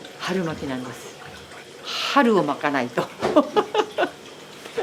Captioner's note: laughs